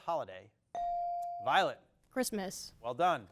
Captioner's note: bell dings